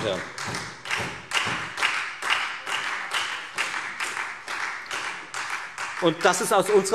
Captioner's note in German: Beifall Freie Demokraten, SPD, AfD und DIE LINKE